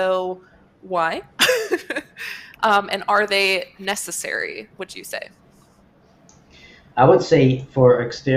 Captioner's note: laughs